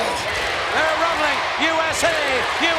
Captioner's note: audience chanting